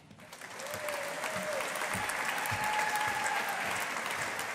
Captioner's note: audience applauding